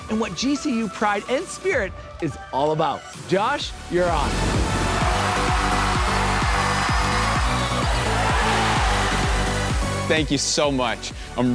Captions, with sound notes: and what GCU pride and spirit is all about. Josh, you're on. (students cheering) - Thank you so much.